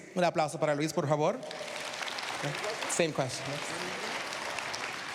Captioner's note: speaking spanish